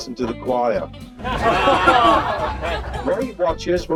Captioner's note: people laughing